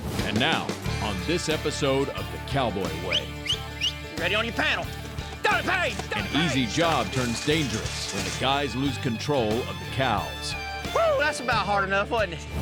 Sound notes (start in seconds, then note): 2.9 whistling